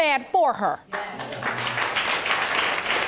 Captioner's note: audience applauding